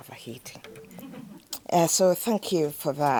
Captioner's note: audience laughing